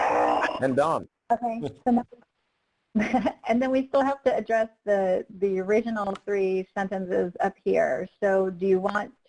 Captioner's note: chuckles